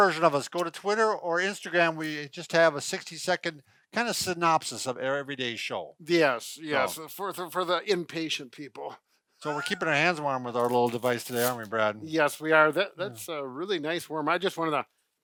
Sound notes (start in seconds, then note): 9.4 chuckles